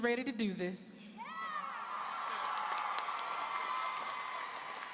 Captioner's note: audience cheering